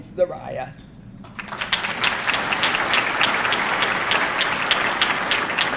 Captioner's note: audience clapping